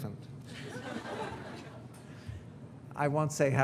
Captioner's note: audience laughing